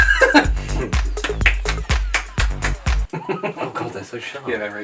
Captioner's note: enthusiastic clapping